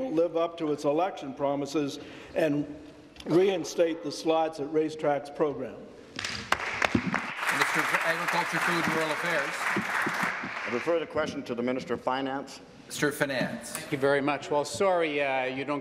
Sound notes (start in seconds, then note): 8.5 applause